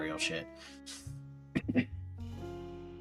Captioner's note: cough